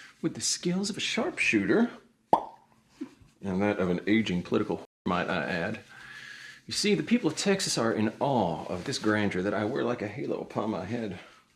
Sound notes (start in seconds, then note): 2.3 lips pop